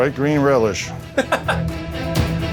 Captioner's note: intense music; laughter